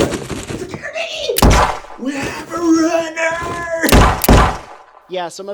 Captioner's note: gunshot; more Gunshots